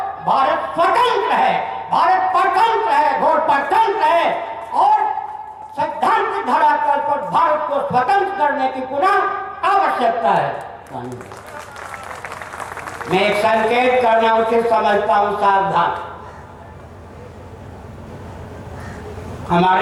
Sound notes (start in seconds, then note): 10.6 applause